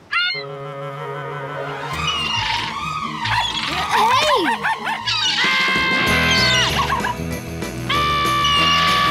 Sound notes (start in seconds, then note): 4.2 barking; 4.8 screaming